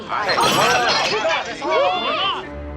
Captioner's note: people clamoring